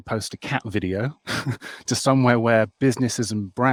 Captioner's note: chuckles